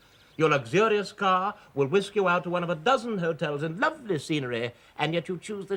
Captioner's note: none